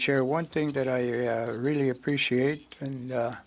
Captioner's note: speaking French